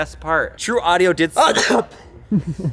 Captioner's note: sneezes